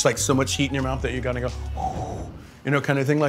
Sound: exhales

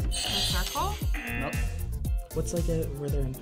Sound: buzzer rings; buzzer

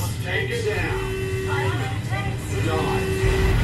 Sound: dive siren

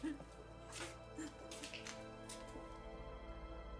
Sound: crying

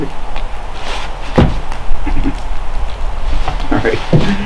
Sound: foot thuds

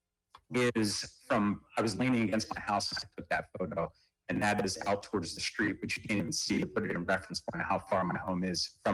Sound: ~audio distortion~

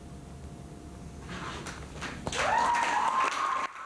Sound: applause

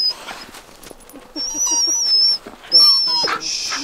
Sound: Caesar is whimpering

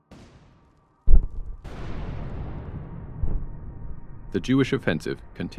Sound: mortars firing

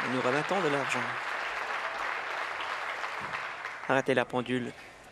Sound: applause; continued applause

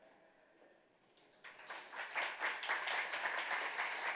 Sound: audience applauds

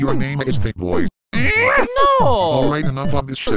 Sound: grunt

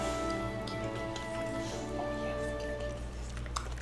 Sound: kissing sounds

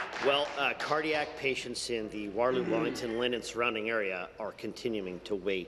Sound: applause

